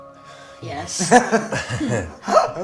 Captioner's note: chuckling